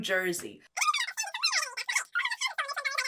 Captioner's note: voice speeds up